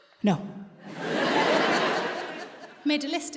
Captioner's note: audience laughs